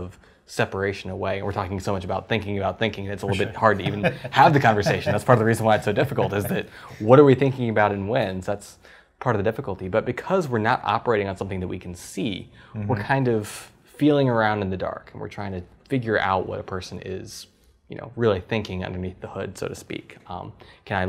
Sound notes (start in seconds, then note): 3.2 laugh